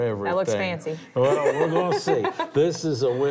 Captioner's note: laughs